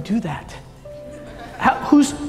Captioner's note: audience laughing